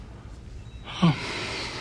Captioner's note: sigh